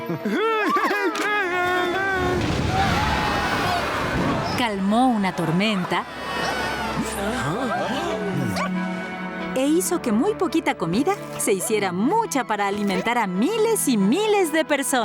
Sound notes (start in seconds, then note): 0.1 happy sounds; 2.2 thunder; 3.0 screaming